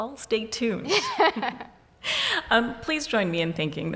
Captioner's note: laughs